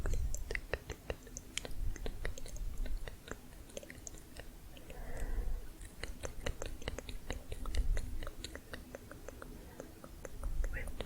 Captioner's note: layered tongue clicking